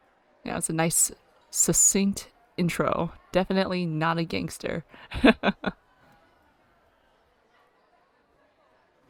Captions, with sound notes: Yeah, it's a nice succinct intro. "Definitely not a gangster" [laughs]